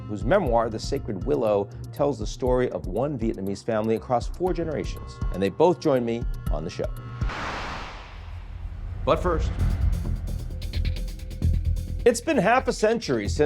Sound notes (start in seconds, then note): 7.2 wind whooshes; 9.8 tense dramatic music